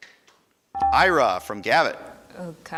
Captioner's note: buzzer dinging